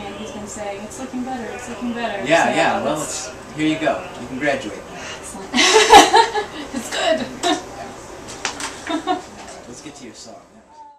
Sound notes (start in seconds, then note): 5.5 laughs; 8.8 laughs